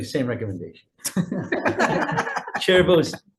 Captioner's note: people laughing